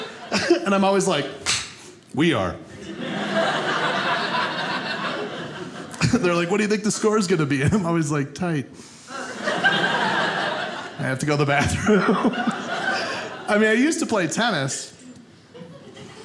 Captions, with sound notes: And I'm always like, We are. (audience laughing) They're like, "What do you think "the score's gonna be?" And I'm always like, Tight. (audience laughing) I have to go to the bathroom. I mean, I used to play tennis.